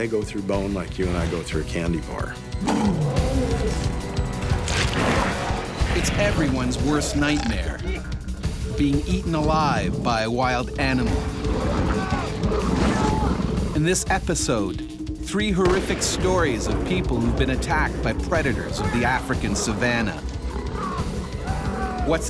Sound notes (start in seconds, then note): 6.3 voiceover